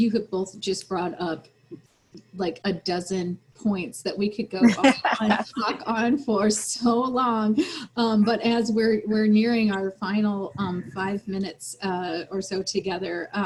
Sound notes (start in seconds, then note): 4.6 laughter